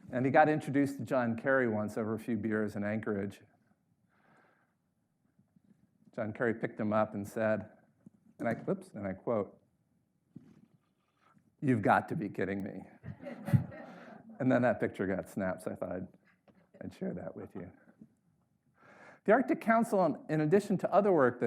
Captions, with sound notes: And he got introduced to John Kerry once over a few beers in Anchorage. John Kerry picked him up and said, and I quote, "You've got to be kidding me." (audience laughs) And then picture got snapped, so I thought I'd share that with you. The Arctic Council, in addition to other work